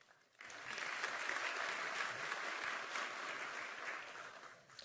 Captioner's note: applause